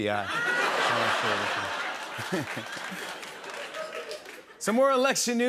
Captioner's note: laughter